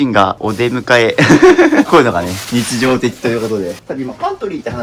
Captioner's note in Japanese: 笑い